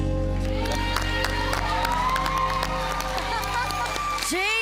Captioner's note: audience applauding; giggling